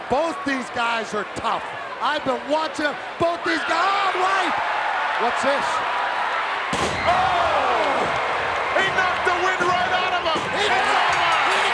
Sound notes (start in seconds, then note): 7.4 body thuds; 7.4 crowd gasping